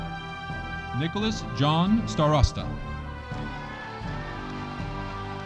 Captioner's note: audience applauding